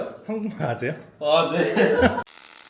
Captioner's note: laughs